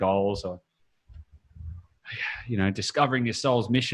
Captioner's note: sighs